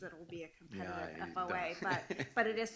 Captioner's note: laughs